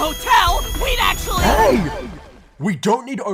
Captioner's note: earth shakes